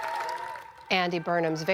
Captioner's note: cheering